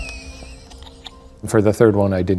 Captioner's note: laughs